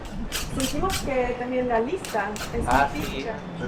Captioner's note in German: auf Spanisch